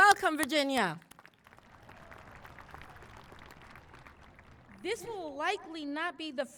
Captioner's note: applause